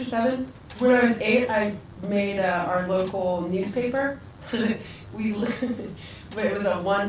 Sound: laughs

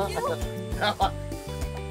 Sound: laughs

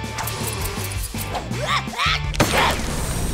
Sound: sneezing

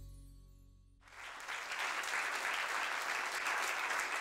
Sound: applause

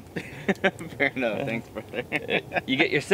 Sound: laughing

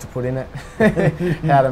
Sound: laughs

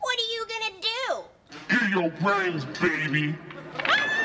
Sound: demonic voice; screaming

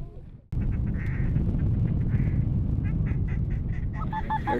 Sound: calling ducks

